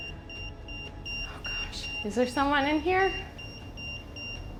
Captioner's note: EMF beeping